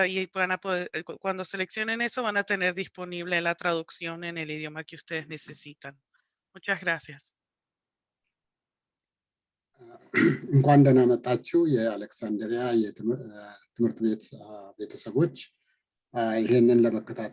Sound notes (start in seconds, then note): 11.0 speaking in foreign language